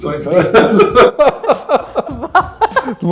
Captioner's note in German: Lachen